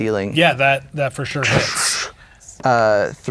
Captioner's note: imitates rocks crashing